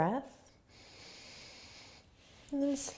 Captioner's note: inhaling